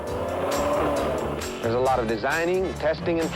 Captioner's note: car engine revs